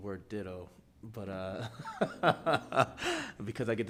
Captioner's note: laughing